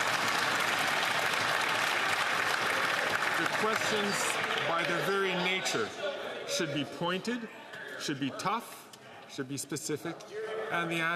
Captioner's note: applause